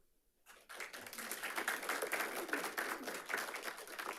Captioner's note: audience applauding